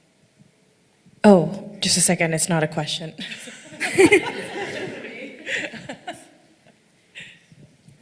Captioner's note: laughing